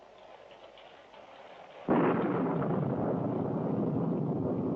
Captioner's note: thunderclap